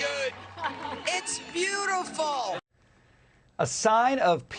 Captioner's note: cheers and applause